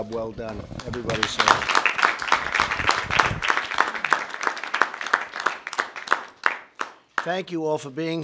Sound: applause

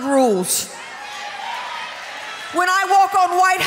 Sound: audience cheering

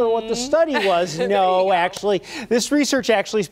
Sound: laughter

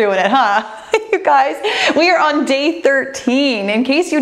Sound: laughs

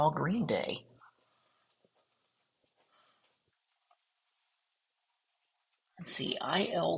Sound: silence

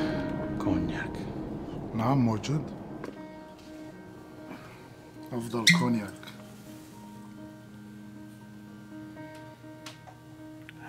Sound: speaking Foreign Language

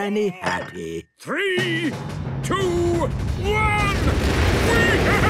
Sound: rockets igniting

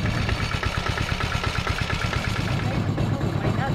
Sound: motor revving

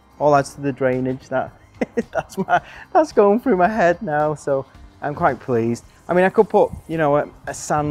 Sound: laughing

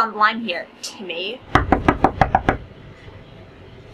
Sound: knocking

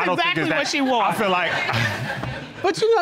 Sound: laughs

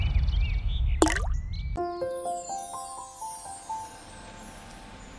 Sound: birds chirping; liquid gurgling

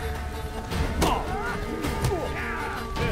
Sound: groan

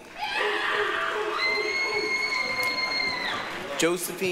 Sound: applause, cheering

